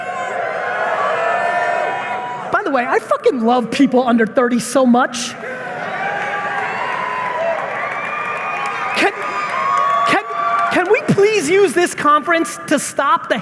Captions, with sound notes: (audience cheering) By the way, I fucking love people under 30 so much! (audience members cheering and applauding) Can we please use this conference to stop